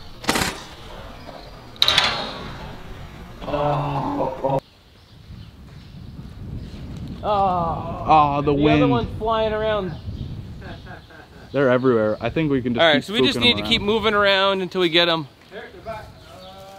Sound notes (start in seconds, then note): 1.8 clanking clay shot; 10.5 laughing